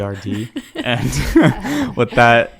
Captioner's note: all laughs